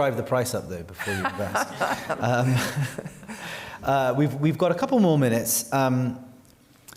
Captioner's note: laughter